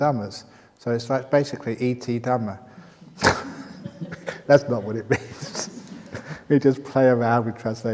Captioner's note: laughs